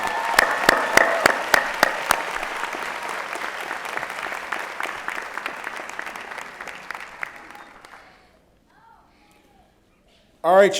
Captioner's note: applause